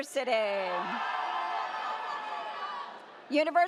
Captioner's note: audience cheers